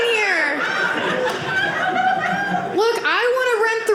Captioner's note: audience laughing